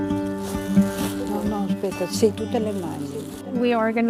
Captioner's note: gentle music; speaking in foreign language